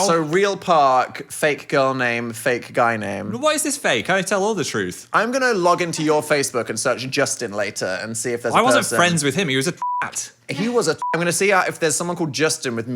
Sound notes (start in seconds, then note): 9.8 beep